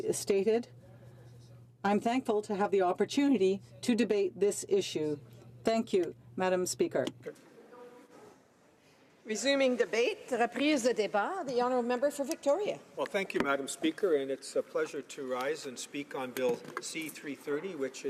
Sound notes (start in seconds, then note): 2.6 speaking French